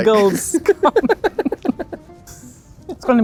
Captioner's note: both laughing